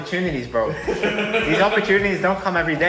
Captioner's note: laughing